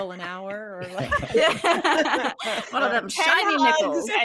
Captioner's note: group laughing